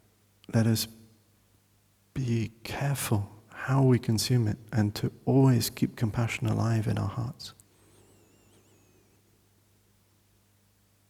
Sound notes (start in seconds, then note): none